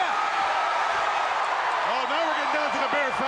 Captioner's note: crowd cheering